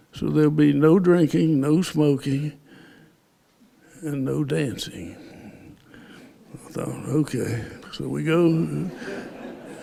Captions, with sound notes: So there'll be no drinking, no smoking, and no dancing. I thought, “Okay.” So, we go- [laughter]